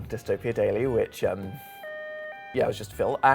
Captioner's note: alarms blaring